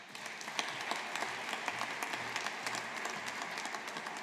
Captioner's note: audience applauding